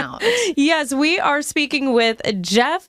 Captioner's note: speaker laughs